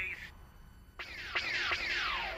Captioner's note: pew pew pew